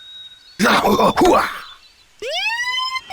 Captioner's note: Shepherd grunts; Shepherd kung fu grunts; sirens blare